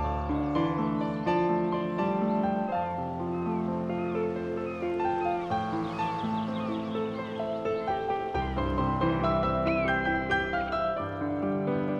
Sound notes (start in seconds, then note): 2.4 birds cawing